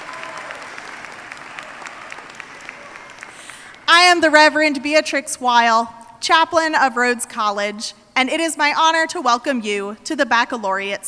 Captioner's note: applause